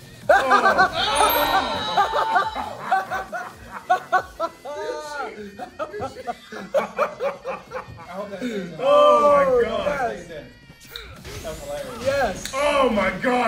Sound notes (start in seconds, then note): 0.2 laugh; 2.9 laugh